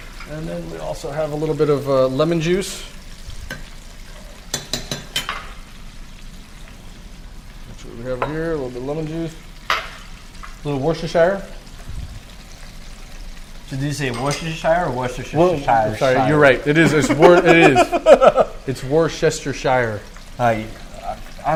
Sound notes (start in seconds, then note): 4.4 utensils clinking; 16.8 laughing